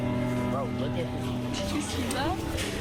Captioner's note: whispered